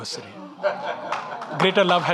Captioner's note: audience laughing